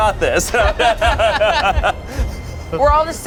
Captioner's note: everyone laughs